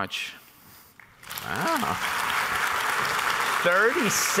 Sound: applause

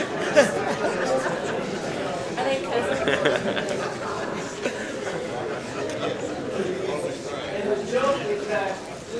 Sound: laughter

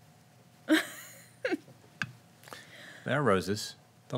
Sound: giggling

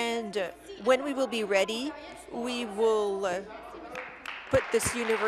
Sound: applause

